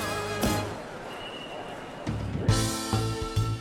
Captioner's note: whistle blowing; people chattering; upbeat jazz music